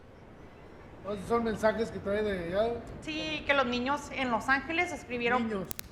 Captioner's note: speaking spanish